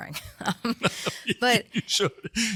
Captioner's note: laugh